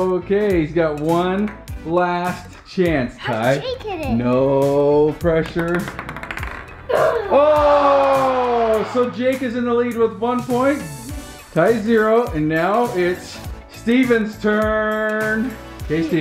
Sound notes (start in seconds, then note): 7.3 disappointed crowd; 7.8 ball clacks